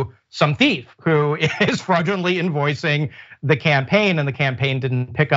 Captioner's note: laugh